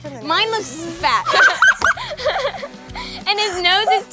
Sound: laughing

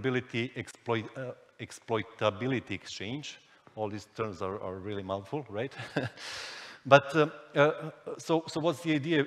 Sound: chuckles

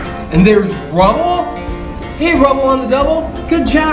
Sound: voiceover

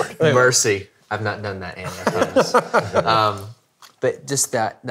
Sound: laughing

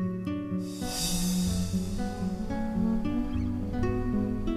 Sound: humming melodically

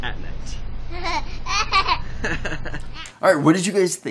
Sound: children laughing

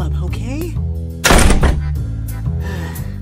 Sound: slam

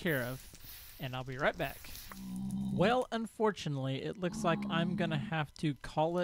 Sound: pigmen grunting

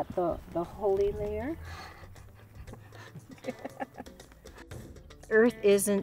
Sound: laughter

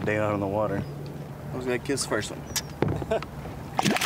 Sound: makes kissing sound; laughs; splash

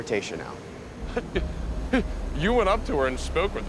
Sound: stammering

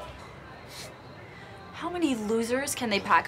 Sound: scoffs

